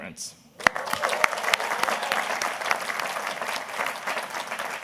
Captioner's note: everybody applauding